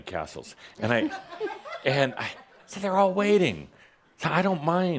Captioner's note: someone giggles